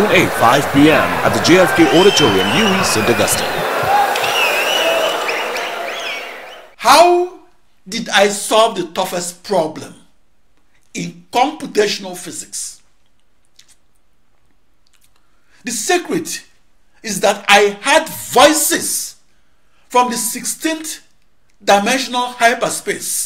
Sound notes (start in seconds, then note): 0.0 wild applause and cheering for 22 seconds